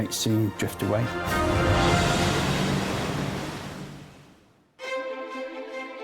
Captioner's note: waves crashing; upbeat music